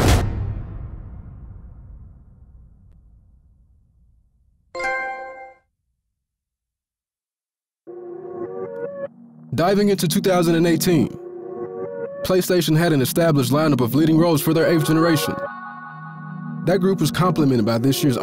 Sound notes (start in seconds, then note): 4.7 trophy ding